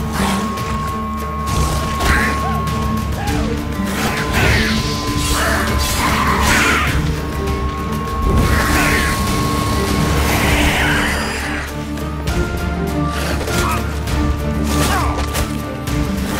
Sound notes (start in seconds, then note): 4.3 flames whoosh; 8.7 flames crackle; 11.0 screech; 12.9 groan